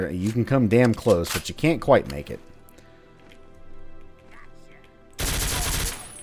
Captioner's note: Ingram spraying